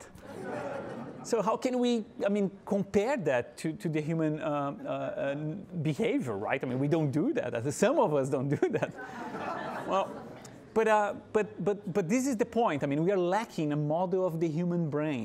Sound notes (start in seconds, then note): 0.1 audience laughing; 8.5 audience laughing